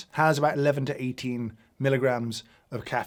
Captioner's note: none